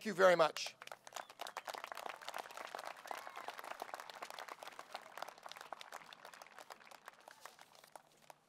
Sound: applause

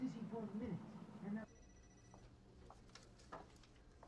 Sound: phone ringing

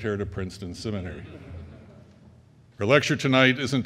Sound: crowd laughing

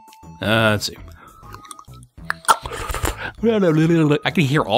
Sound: proceeds to make various strange mouth noises

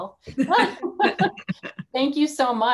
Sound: laughing

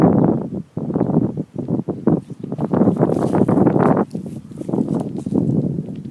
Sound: sound of wind

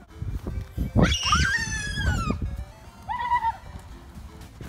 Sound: screaming

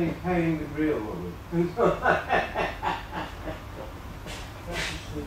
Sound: laughter

